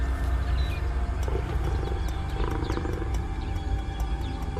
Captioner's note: lion growling